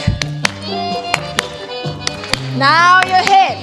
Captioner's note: clapping